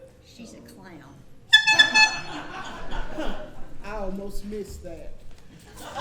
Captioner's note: horn honks